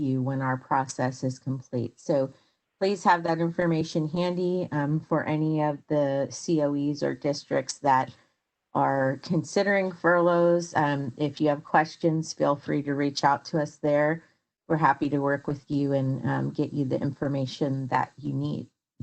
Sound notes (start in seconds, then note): none